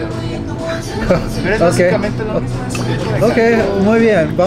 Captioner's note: chuckles